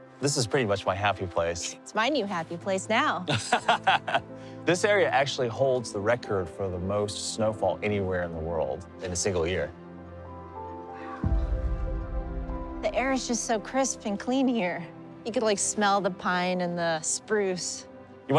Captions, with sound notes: This is pretty much my happy place. It's my new happy place now. (laughing) This area actually holds the record for the most snowfall anywhere in the world in a single year. Wow. The air is just so crisp and clean here. You could like smell the pine and the spruce.